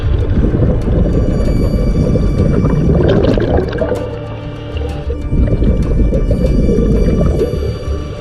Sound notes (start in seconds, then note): 2.9 water bubbling